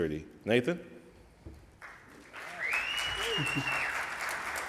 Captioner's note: audience applauds